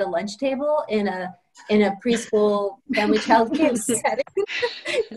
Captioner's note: laughter